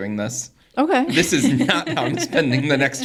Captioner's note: laughs